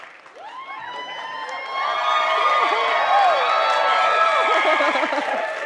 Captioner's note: crowd continues cheering